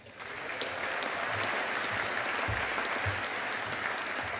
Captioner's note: audience applauding